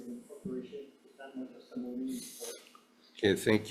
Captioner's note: faintly speaking